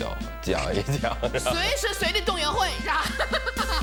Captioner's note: coughs